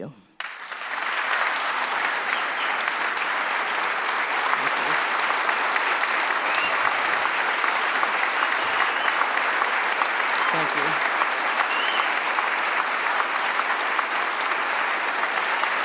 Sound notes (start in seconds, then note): 2.2 applause